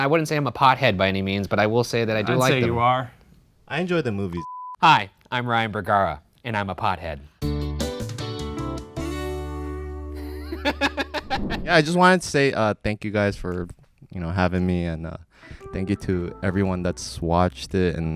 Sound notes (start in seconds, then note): 7.4 upbeat music; 10.2 laughs